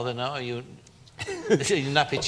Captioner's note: giggles